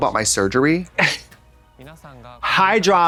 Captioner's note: Katya rasps and slaps